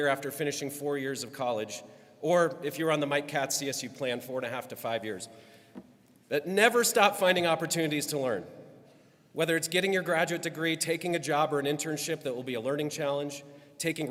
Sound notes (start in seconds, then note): none